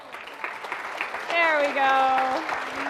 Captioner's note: audience applauding